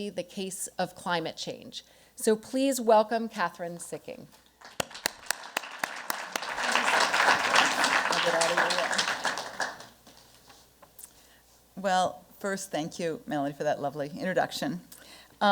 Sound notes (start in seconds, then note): 4.6 applause